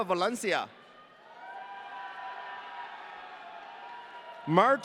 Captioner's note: audience cheering